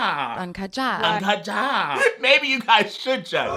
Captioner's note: speaking in foreign language; actor speaking in foreign language; speaking in foreign language